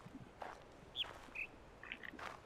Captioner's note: bird chirps high-low